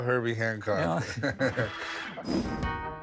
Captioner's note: chuckles